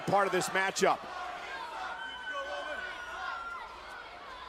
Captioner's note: crowd chanting